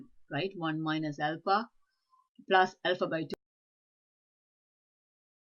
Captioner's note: audio cuts out